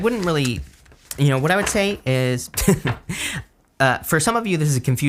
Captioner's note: chuckles